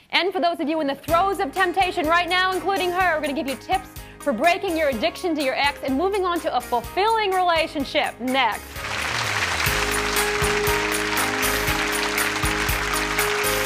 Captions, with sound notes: And for those of you in the throes of temptation right now including her, we're gonna give you tips for breaking your addiction to your ex and moving on to a fulfilling relationship, next. (audience applauds) (soft music)